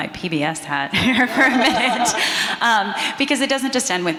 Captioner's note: everyone laughing